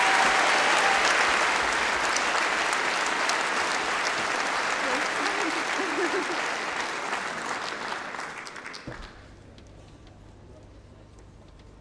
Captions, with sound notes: composite motion 14 and reject 13. Support Jeremy Corbyn. (Applause)